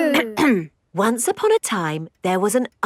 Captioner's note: clears throat